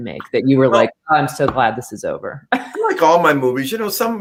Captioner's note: laughter